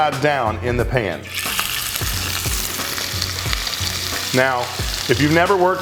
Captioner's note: sizzling